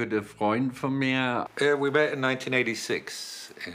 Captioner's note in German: englisch